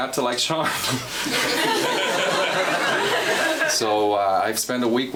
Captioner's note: laughing